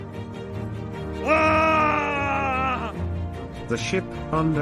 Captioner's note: shouting